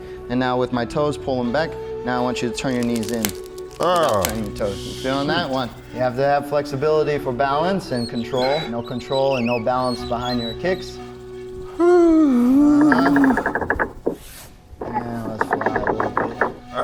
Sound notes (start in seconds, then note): 2.6 tree branches cracking; 2.8 Spice groans; 7.9 screws squeaking; 11.7 Spice sighing; 12.8 old gear cranking slowly